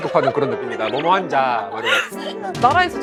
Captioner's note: laughing at how it sounds